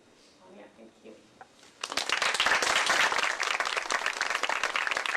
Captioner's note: applause